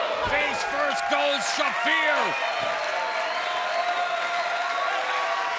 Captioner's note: crowd cheering